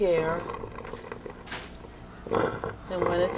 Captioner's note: ragged, Wet Breathing Continues